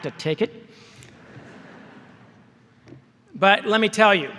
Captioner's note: laughter